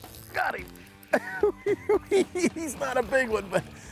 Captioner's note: laughs